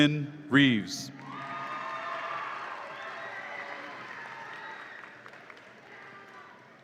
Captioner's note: audience applauds and cheers